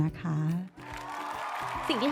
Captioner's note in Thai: เสียงปรบมือ